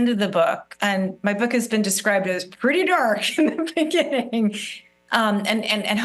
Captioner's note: laughs